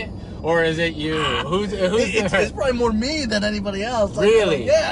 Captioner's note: laughing